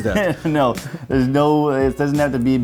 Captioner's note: laughing